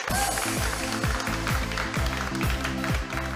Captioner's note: applause